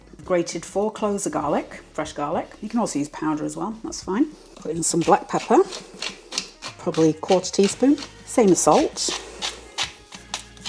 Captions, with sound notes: Grated four cloves of garlic; fresh garlic You can also use powder as well, that's fine Put in some black pepper; probably quarter teaspoon [PEPPER MILL GRINDING] Same of salt